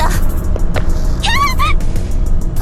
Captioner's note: panicked cry